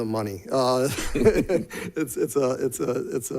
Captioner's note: laughter